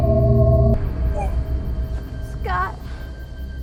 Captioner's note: startling music; Scott heaves